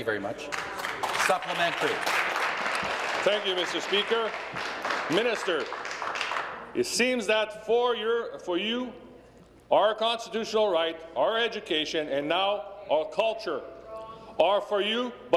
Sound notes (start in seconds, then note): 3.9 applause